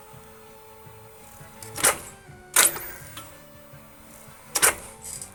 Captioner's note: clicking